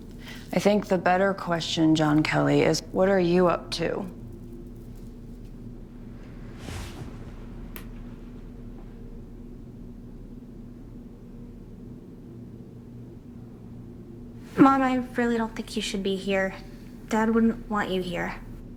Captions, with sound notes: - I think the better question John Kelly is, what are you up to? (clothes rustle) - Mom, I really don't think you should be here. Dad wouldn't want you here.